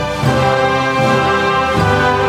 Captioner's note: none